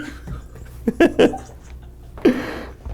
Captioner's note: laughs maniacally